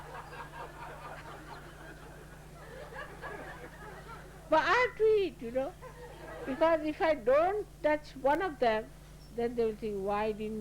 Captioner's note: laughter